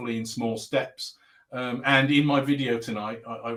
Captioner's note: abbreviated speech